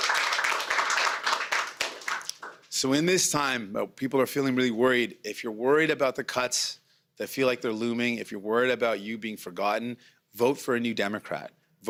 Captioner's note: cheering and Applause